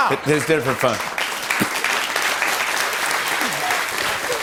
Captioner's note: applause